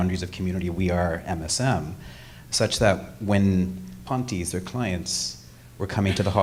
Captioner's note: speaking foreign language